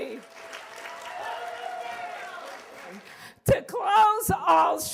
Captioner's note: cheers and applause